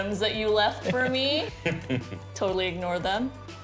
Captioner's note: laughter